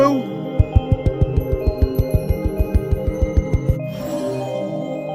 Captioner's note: footsteps